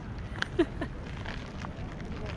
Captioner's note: laughs